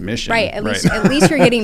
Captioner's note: laugh